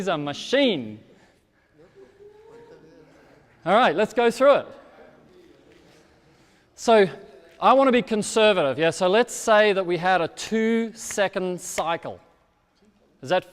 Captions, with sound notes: He's a machine. (audience chattering) All right, let's go through it. So I wanna be conservative. Let's say that we had a two-second cycle.